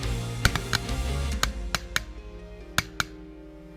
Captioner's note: gun shots